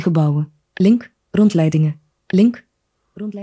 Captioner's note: speaks in foreign language